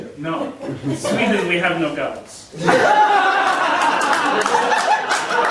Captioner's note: audience laughing